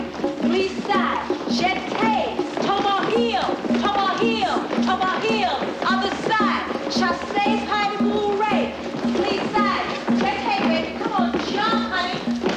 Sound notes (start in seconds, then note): none